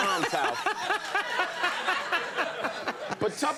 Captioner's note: laughing